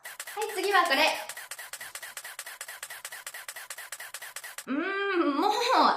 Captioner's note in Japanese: カシャカシャカシャカシャ…